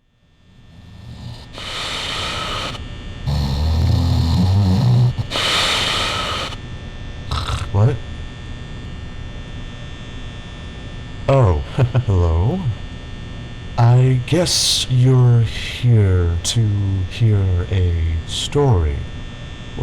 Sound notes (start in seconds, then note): 0.5 night Guard snoring; 7.1 snort